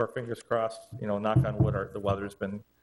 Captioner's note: knuckles knocking